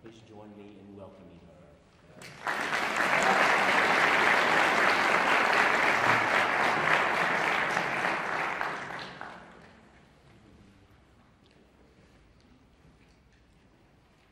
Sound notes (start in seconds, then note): 2.2 audience applauding